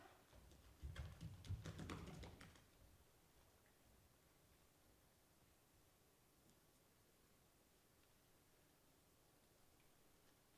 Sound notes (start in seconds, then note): 0.9 footsteps thumping